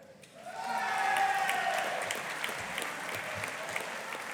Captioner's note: audience applauding